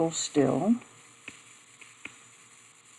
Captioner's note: silence